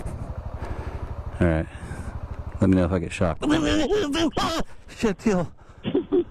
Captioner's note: electrocuted sound; laughing